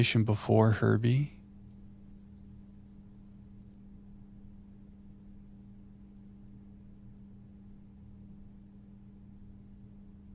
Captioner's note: silence